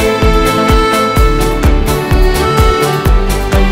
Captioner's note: Mouthing